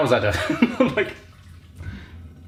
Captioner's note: laughs